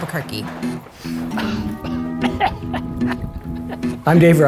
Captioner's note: coughing